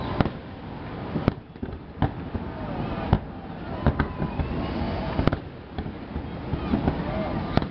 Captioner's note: wind; fire